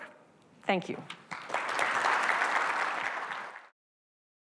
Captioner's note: crowd clapping